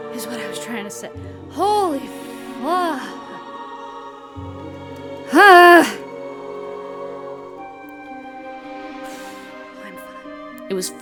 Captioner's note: tiny exhale